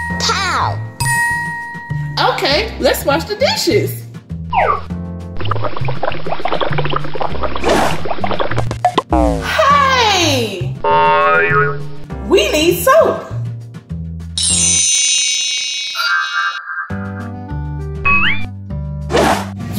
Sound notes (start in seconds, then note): 0.7 ding sound effect; 5.4 water gurgling; 10.8 boing sound effect; 13.8 comical symphony